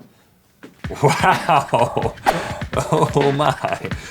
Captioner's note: laughs